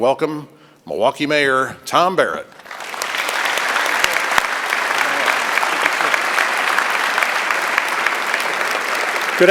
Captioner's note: applause